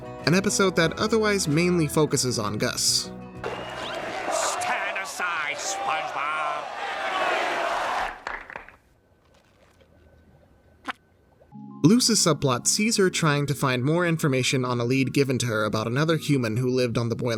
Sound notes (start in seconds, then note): 3.4 cheers and applause; 6.6 cheering silences; 10.0 squeaks